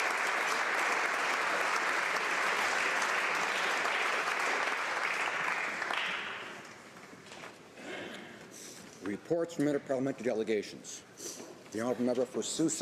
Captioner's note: applause